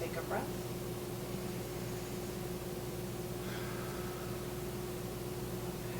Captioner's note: inhaling and exhaling